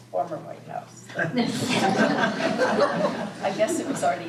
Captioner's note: laughter